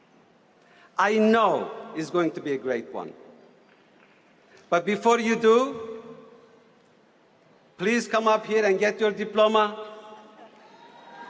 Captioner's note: cheering